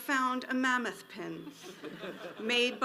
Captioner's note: audience laughs